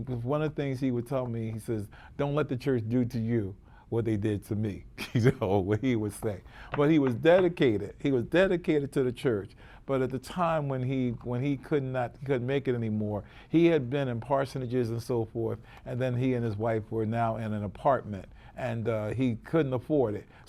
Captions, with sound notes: one of the things he would tell me, he says, "Don't let the church do to you what they did to me." you know, what he would say. (chuckles) But he was dedicated, he was dedicated to the church. But at the time when he couldn't make it anymore, he had been in Parsonages and so forth, and then he and his wife were now in an apartment and he couldn't afford it.